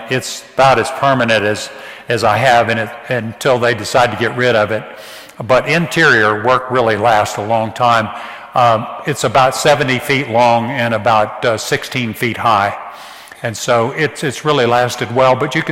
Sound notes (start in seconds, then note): none